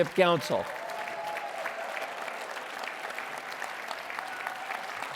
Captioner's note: applause